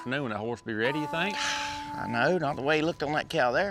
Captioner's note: sighs